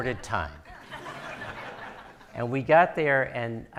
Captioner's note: audience laughing